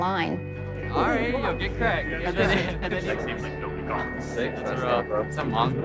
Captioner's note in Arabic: دردشة